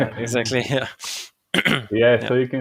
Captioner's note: clearing throat